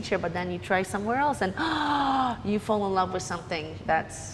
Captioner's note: gasps